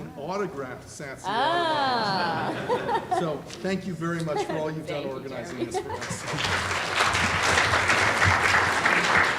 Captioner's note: clapping